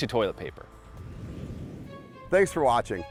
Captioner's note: whooshing